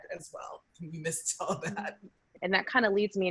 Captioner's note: laughs